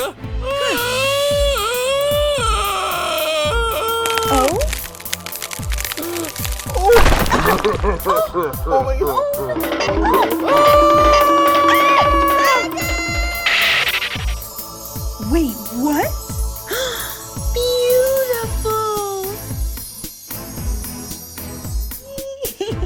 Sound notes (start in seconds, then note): 0.5 yells; 7.4 snickers; 9.4 yells